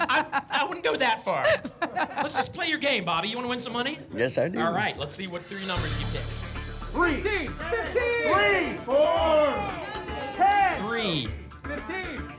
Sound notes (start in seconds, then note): 7.5 audience shouting numbers